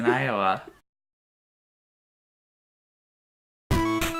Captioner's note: silence